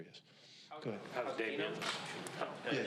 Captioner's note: reporters shuffling